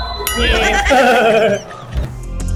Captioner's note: laughs